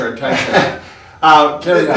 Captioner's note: laughing